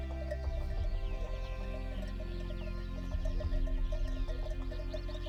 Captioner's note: cow bell ringing